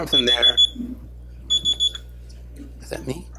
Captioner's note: phone beeps